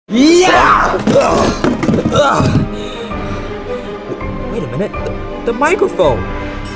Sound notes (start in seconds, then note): 0.1 Mario screaming and grunting; 2.9 suspenseful music